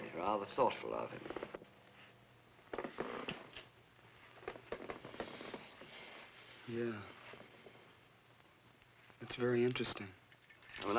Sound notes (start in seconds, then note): 2.7 creaking noise